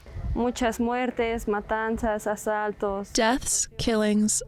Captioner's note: speaking in foreign language